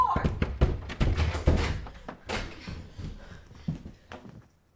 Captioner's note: door opening